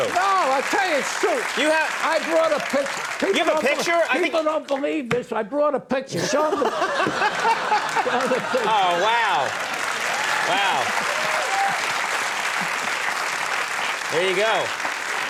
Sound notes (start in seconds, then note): 6.1 laughing; 9.8 audience cheering; 11.5 audience clapping